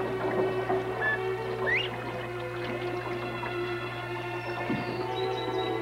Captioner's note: bird chirping